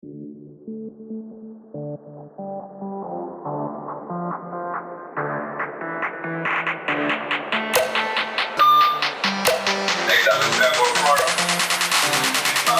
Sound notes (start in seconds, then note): 8.6 public address system chiming